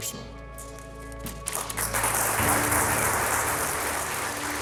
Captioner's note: applause